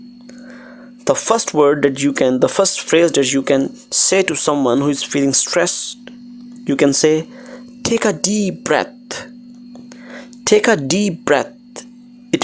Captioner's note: inhale deeply